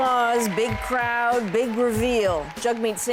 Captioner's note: cheers and Applause